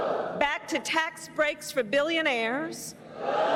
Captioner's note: crowd boos